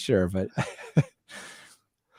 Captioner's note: laughter